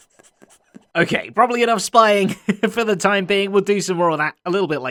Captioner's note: chuckles